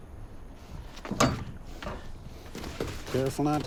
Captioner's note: gate unlatches; huffing